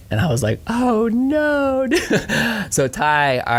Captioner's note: laughing